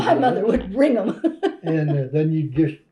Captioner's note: laughs